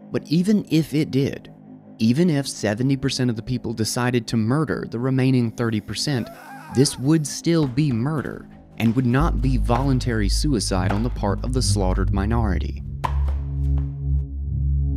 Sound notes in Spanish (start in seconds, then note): 5.9 hombre llorando